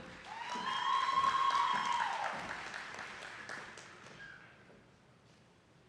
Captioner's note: attendees cheering and clapping